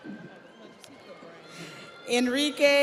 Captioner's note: audience applauds; audience cheers